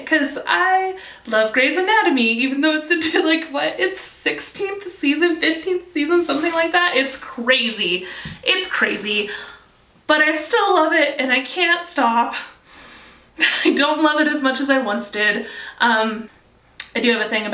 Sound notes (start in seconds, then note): 12.8 sighs